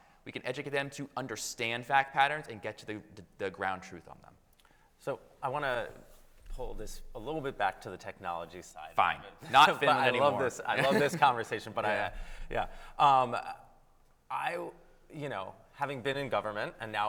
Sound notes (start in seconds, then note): 9.4 chuckles